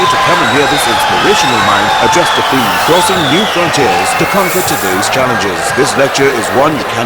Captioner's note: wild applause and cheering for 22 seconds